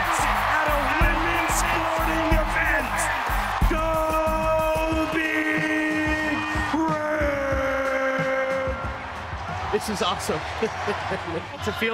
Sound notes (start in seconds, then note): 3.7 crowd cheering; 10.5 laughing